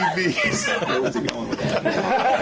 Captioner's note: laughter